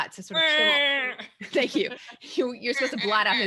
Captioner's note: quacks